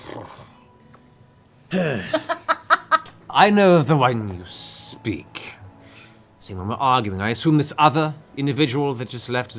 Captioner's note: dismissive sigh; sighs heavily